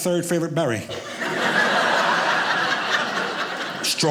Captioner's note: audience laughing